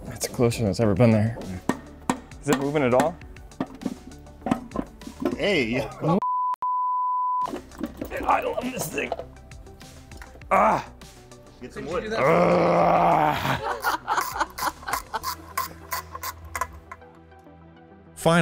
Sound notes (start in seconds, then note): 6.2 beeping; 12.1 growling; 14.0 team members laughing; 14.9 tool scraping; 18.2 voiceover